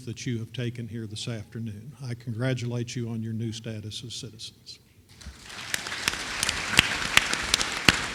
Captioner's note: applause